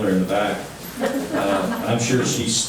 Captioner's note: laughing